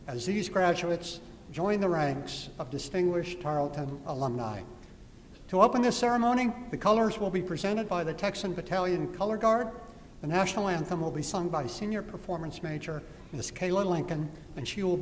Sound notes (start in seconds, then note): none